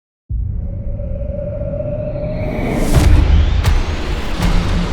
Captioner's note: aircraft whooshing